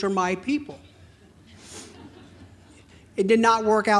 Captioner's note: audience laughing